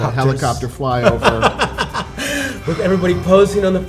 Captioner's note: laughing